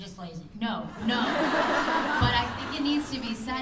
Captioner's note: laughter